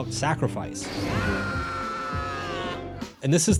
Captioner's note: man screaming